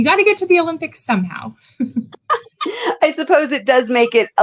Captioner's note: laughs